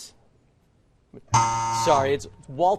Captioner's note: buzz